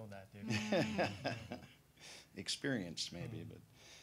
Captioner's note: laughing